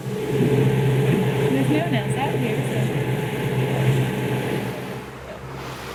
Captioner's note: none